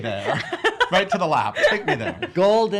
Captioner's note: laughing